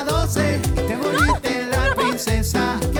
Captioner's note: Caridad ríe